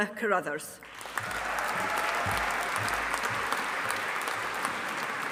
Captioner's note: audience applauding